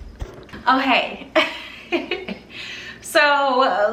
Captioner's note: laughs